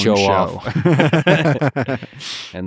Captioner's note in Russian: Пол и Лекс смеются